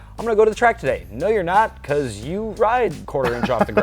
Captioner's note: laughs